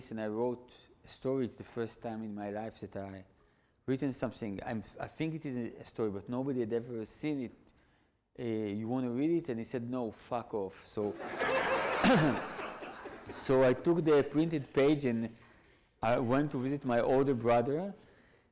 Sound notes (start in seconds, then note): 11.1 audience laughs; 12.0 clears throat